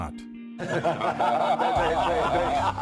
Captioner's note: laughing